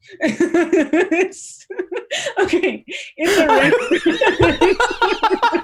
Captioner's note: laughter